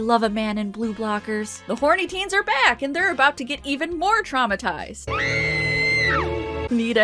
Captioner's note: teen screams